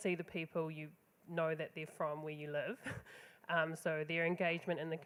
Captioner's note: laughs